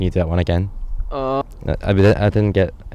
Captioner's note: lacklustre outcry cut short